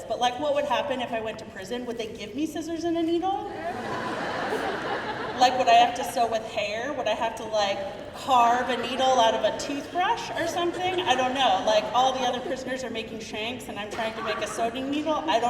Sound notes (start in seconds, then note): 3.5 crowd laughing